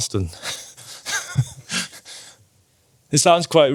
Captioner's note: laughing